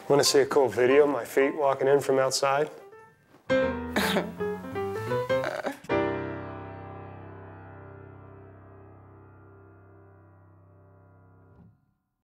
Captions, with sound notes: Want to see a cool video of my feet walking in from outside? (chuckle)